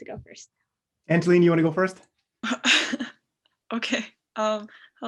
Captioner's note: laughter